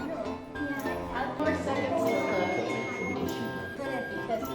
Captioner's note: all chattering